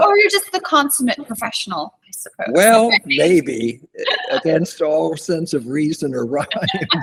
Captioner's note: laughter